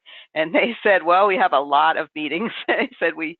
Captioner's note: laughs